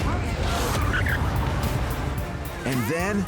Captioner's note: tires screech; dramatic music